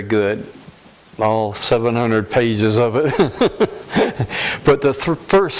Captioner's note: laughter